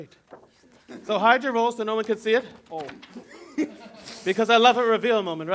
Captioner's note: laughter